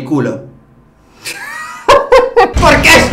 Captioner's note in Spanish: risas